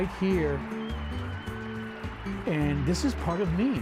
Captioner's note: applause in background